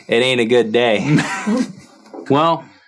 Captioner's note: chuckles